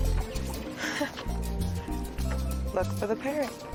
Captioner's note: laughs